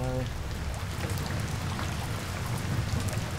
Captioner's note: pouring rain